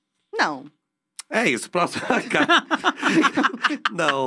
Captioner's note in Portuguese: risos